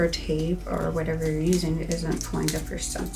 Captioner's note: material crinkling